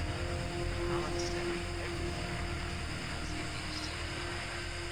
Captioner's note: static crackling